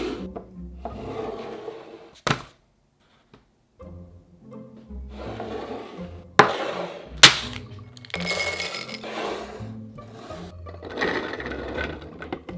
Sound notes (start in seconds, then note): 7.2 chips dropping; 11.0 beans dropping